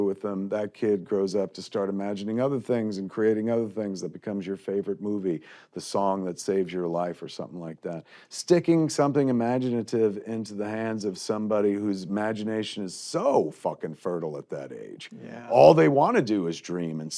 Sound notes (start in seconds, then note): none